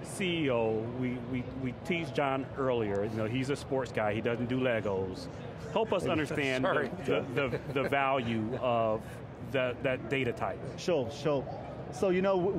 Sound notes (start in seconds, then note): 6.2 laughing